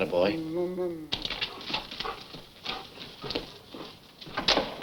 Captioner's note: devil grumbles